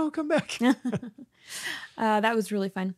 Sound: laughs

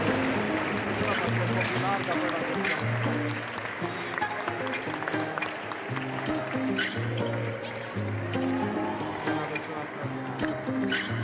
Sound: applause; ♫ Midtempo guitar music ♫

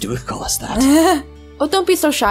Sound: laughs

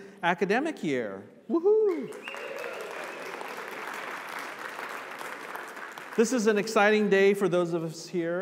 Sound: applause

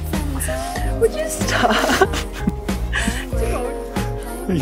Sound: crying

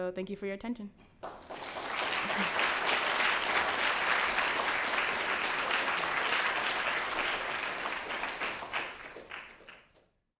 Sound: applause

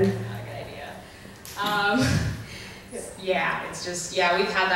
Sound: voiceover

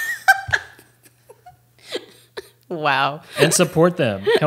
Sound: both laughing

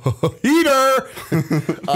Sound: chuckle

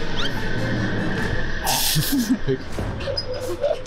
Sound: bursting laughter

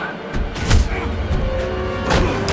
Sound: loud impact, Kyle shouts

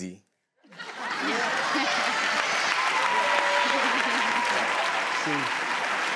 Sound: audience laughing and clapping

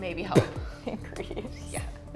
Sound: laughs

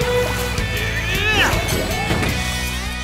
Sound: grunting

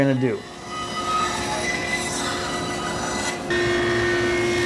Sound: machine whirring

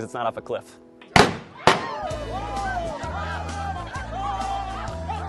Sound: starting gun

